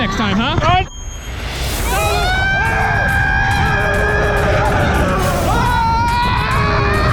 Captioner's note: both yelling; intense music